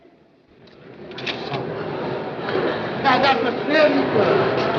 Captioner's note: camera shutter clicks and people chatter indistinctly